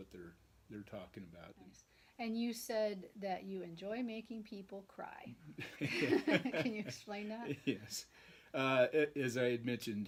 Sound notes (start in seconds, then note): 5.6 laughing